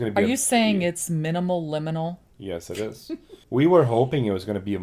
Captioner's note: laughs